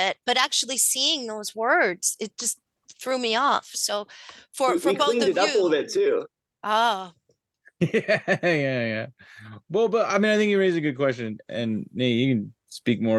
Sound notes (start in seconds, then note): 7.8 chuckles